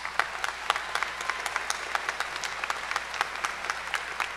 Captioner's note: cheers and applause